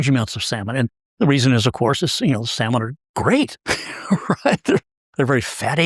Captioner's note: laugh